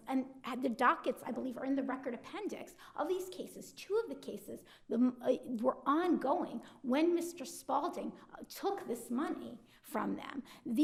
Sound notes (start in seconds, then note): none